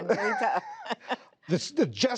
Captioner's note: laughter